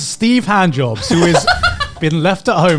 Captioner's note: laughing